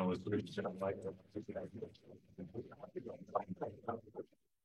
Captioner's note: speaking faintly